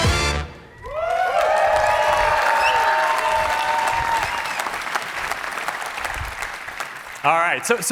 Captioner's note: funky music; cheering